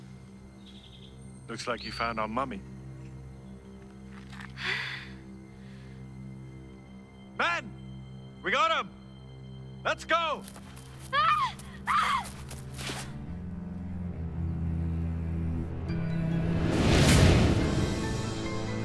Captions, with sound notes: - Looks like you found our mummy. (Liv gasps) Men, we got 'em! Let's go! (Liv shrieking) (intense music)